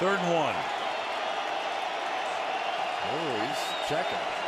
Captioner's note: cheering